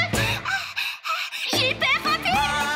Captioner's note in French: halètements